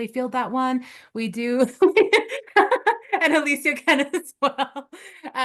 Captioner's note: laughs